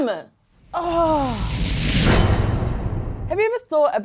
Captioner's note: air whooshing